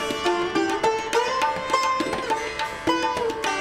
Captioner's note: none